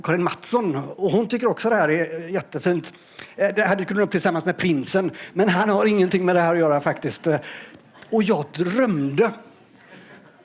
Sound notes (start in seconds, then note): 4.4 Swedish